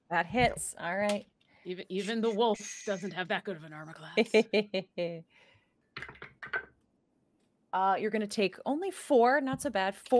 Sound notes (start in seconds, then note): 4.1 laughing; 6.0 dice clacking